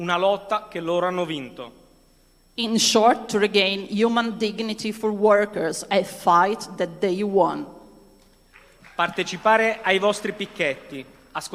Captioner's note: speaking non-english language